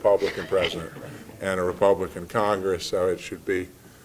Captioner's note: laugh